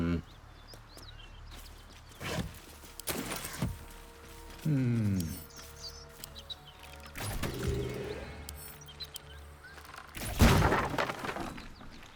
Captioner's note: silence